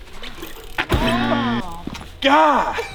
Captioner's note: wheels clunking; bell buzzing; shouting; laughing